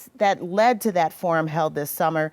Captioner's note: none